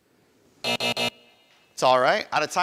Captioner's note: buzzer buzzing